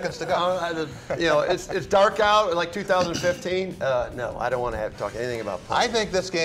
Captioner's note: laughter